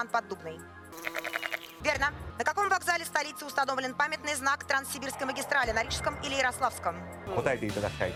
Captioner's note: sheep from "Shaun the Sheep" bleating